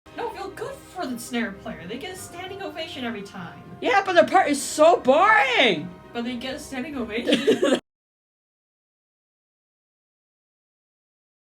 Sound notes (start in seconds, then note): 7.2 laughter